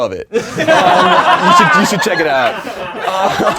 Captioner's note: laughing